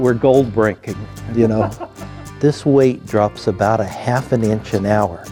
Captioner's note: laugh